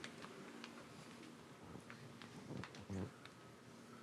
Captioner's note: shuffling